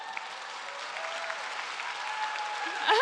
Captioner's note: cheers